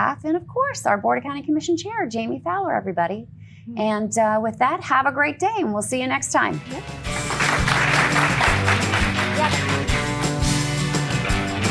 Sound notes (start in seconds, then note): 8.6 applause; 10.8 upbeat music